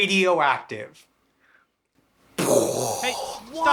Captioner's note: imitates explosion